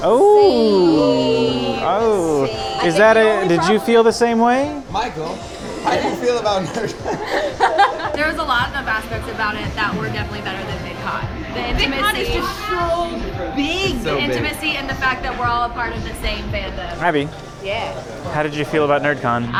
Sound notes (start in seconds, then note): 6.3 laughter